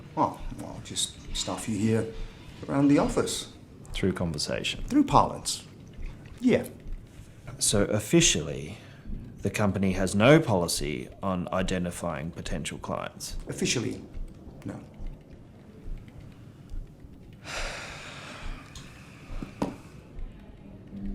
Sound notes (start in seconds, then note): 17.5 Ron sighs